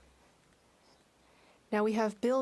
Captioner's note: speaking French